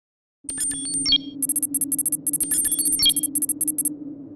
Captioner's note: scanning tone